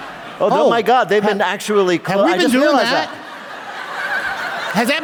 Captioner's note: laughter